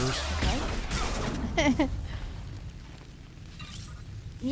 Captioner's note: laughing